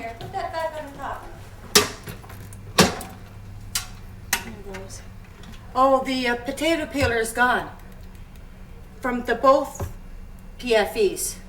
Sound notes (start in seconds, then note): 2.5 case pops open